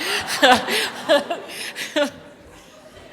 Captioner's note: laughter